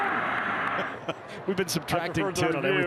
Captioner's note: chuckles